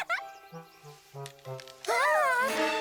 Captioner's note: crack!